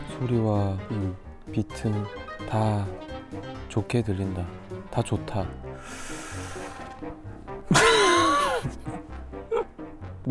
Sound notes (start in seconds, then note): 5.7 deep breath of frustration; 5.7 inhales